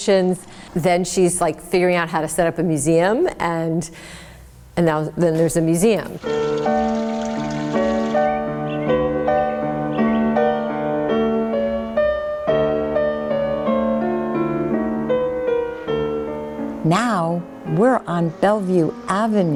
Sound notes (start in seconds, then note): 5.7 light music; 5.8 water splashing; 14.6 light music continues